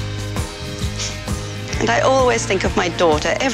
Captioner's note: chuckles